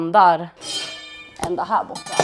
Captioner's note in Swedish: Klingande ljud